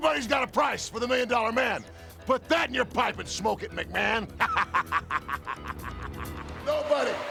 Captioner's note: laugh